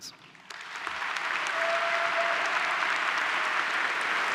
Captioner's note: applause